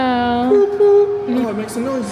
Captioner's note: tooting